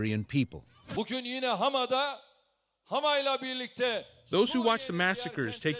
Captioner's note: through translator